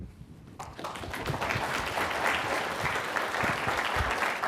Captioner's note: clapping